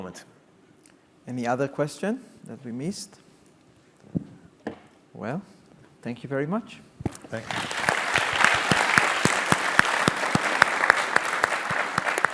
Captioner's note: clapping